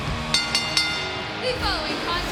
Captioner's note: crowd cheering; bell ringing